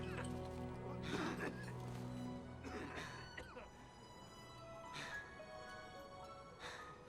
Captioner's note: coughs; both breath heavily